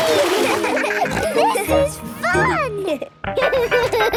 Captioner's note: giggles, snorts; giggling